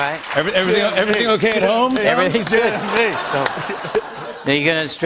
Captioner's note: laughter